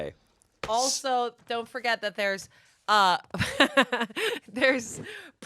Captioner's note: laughs